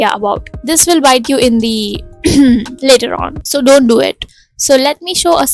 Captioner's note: ahem